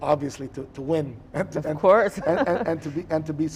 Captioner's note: chuckles